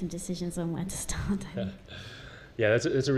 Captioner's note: laugh